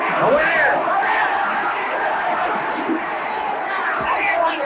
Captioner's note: crowd cheers